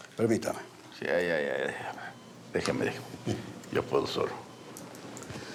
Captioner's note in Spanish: Bip